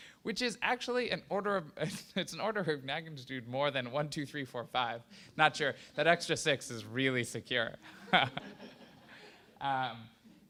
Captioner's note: laughter